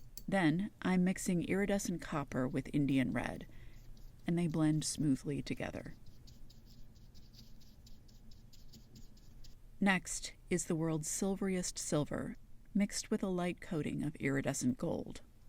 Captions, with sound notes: Then I’m mixing Iridescent Copper with Indian Red, and they blend smoothly together. [dry quick brush strokes] Next is the World’s Silveriest Silver mixed with a light coating of Iridescent Gold.